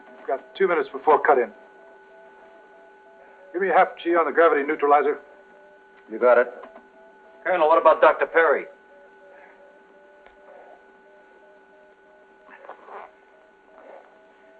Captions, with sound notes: You've got two minutes before cut in. Give me a half G on the gravity neutralizer. You got it. Colonel, what about Dr. Perry? [panting]